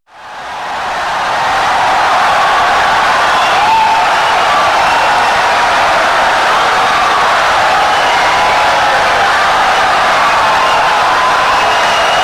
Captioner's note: wild applause and cheering for 17 seconds